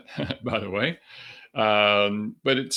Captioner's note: chuckles